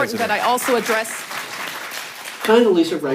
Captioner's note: the gallery applauds